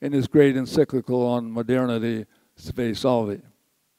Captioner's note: says word in foreign language